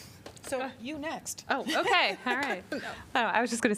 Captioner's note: laughter